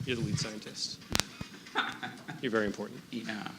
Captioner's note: chuckling